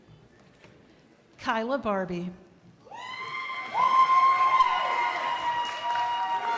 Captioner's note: crowd applauding